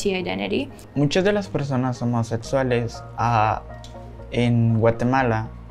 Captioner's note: speaking Spanish